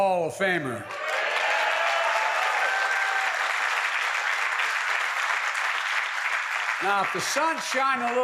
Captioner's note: applause